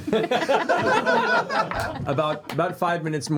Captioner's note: laughter